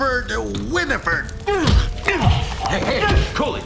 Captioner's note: grunts